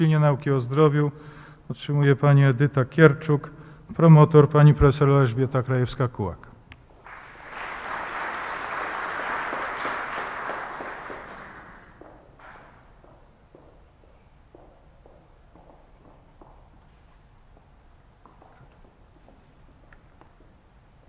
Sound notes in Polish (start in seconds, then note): 7.0 oklaski